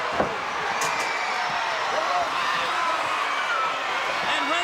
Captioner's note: crowd cheering